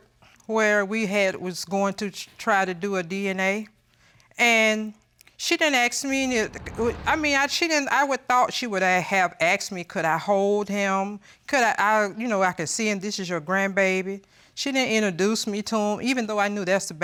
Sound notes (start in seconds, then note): 5.8 stutters